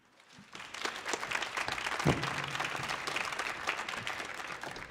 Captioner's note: audience applauding